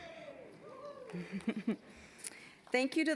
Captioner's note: scattered cheering; chuckling